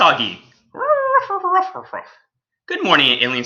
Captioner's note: Alien Space Doggy barks